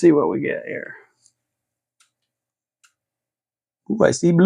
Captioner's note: silence